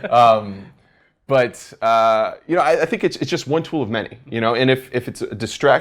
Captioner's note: laugh